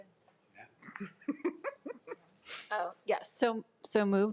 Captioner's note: chuckles